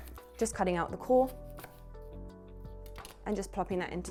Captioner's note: knife slicing